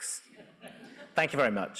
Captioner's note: audience laughing